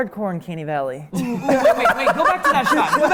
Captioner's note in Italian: risate